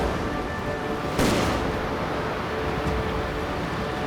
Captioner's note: gun Shot